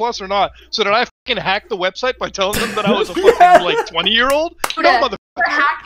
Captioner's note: laughs